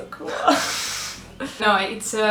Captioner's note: both laughing